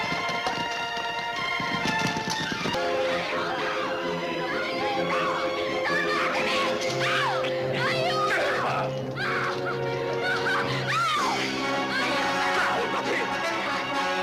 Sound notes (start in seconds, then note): 2.4 dramatic music; 10.3 screaming